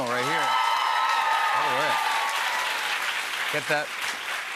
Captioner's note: cheers and applause